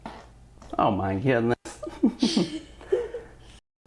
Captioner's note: laughter